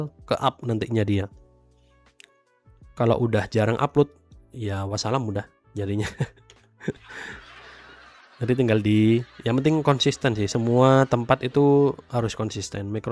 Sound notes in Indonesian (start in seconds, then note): 6.8 tertawa